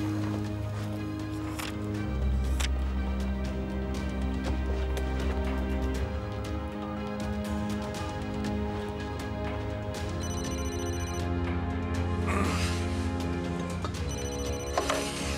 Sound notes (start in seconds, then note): 10.1 phone ringing; 12.2 grunting